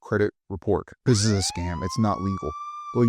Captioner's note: siren ringing